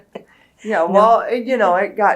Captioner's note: laugher